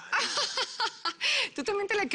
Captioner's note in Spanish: Risas